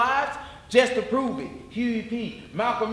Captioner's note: none